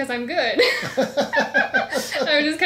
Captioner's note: laughs